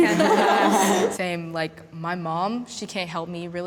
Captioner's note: laughter